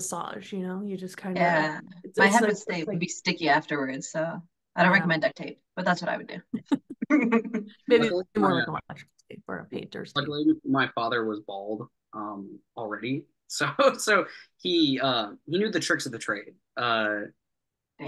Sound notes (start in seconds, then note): 5.5 laughing